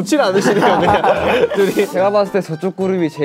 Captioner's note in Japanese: 唾をゴクリ